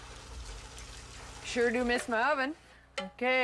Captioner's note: egg sizzles